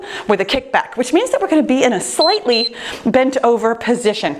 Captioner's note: timer beeps